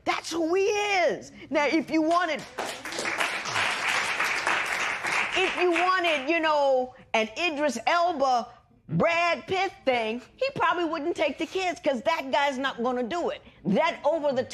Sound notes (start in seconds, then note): 2.5 cheers and applause